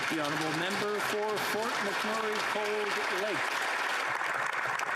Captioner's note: applause